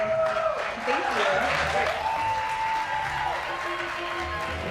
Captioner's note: applause